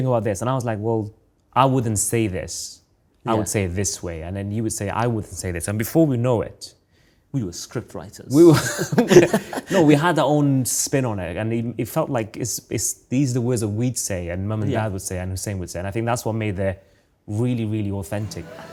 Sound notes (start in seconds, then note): 8.5 both chuckling